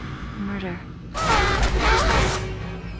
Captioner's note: screaming